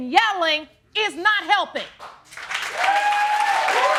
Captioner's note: audience cheering